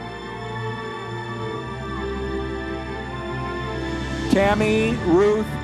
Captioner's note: audience members cheering